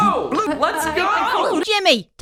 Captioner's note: stammers